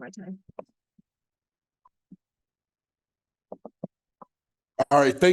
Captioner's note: silence